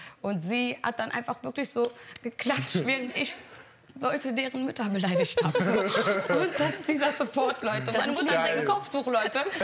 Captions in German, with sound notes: und sie hat dann einfach wirklich so geklatscht, während ich ... Leute deren Mütter beleidigt hab, so. (Gelächter) Und dieser Support, Leute ... Meine Mutter trägt 'n Kopftuch, Leute,